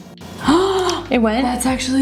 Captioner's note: gasps